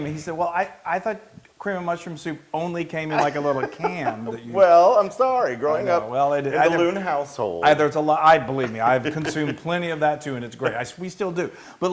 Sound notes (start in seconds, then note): 3.1 laugh